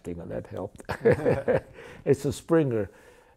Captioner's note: laughter